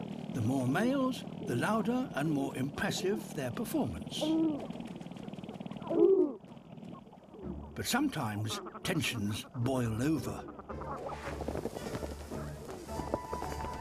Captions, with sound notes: The more males, the louder and more impressive their performance. (COOING, RATTLING) But sometimes, tensions boil over.